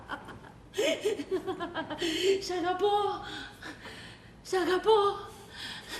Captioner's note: γέλιο-λυγμός